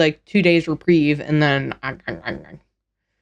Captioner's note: gnawing